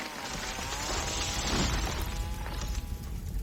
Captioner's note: fire crackles